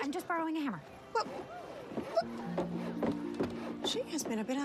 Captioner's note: stammering